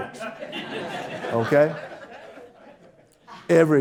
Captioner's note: audience Laughter